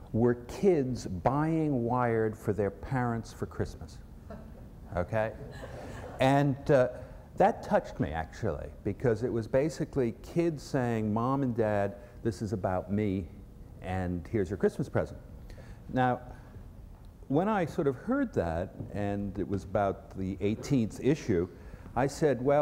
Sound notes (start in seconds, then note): 5.4 laughter